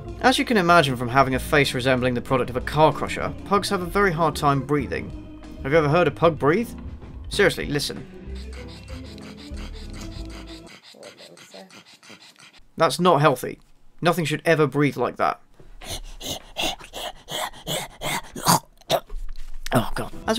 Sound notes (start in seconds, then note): 8.2 strained, heavy breathing; 15.7 impression of Pug breathing; 18.5 chokes